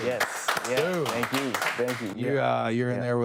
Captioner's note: crew clapping